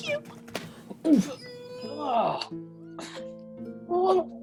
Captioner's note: grunts as if being hug too tight followed by the sound of a big wet kiss